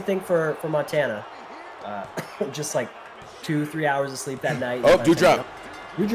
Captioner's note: laugh